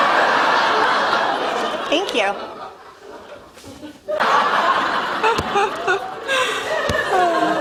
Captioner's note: laughter